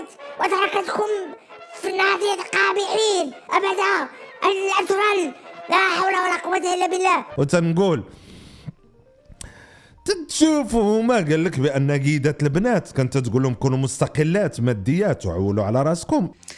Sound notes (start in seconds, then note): 9.4 sigh